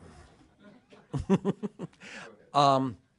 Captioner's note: laughter